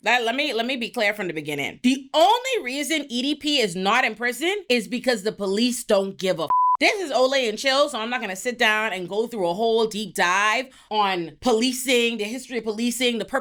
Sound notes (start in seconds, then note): 6.5 beep